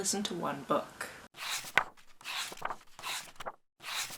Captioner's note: pages turning